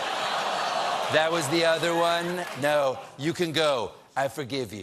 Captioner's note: audience reacts